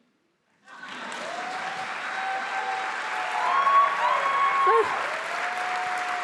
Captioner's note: attendees applauding; attendees cheering